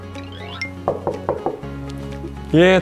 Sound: A cheerful knock

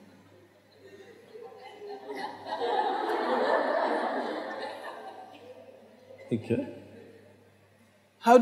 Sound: laughter

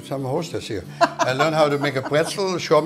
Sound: laughs

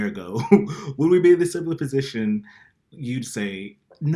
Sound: laughs

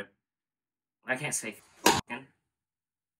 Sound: slap

